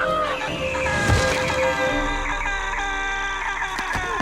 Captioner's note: Benji screaming